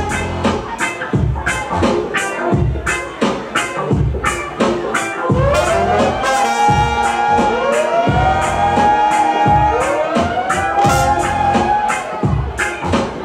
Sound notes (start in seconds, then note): 0.2 reggae music continues; 5.4 siren effect blares